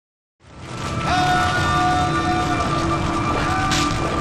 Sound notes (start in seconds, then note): 0.4 flames crackle; 1.1 man shouts